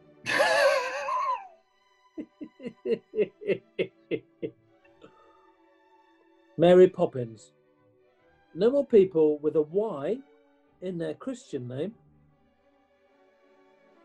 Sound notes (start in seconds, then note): 0.1 laughing; 2.2 giggling